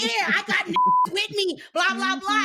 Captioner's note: beep